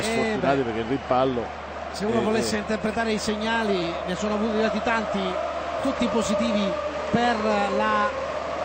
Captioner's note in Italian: Applauso